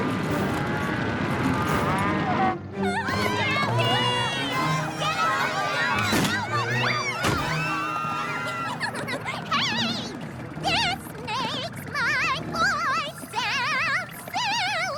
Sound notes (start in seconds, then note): 8.3 pinkie pie giggles; 8.6 vibrating